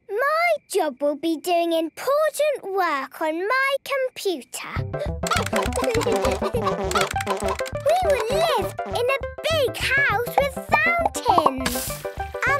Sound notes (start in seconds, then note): 5.2 computer game chickens clucking; 5.2 keyboard tapping